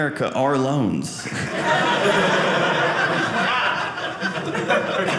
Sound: audience laughing

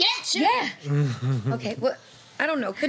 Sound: laughing

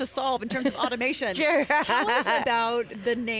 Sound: laughter

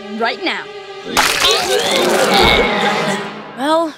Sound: vomiting

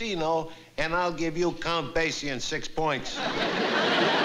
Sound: italian

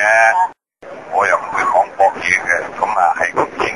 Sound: Mandarin

